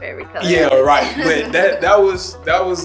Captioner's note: chuckling